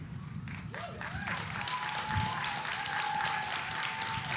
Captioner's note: audience applauding